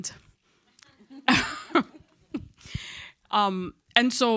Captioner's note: audience and chuckle